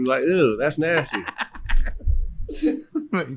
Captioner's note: laughs